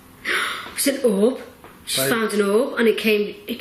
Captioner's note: gasps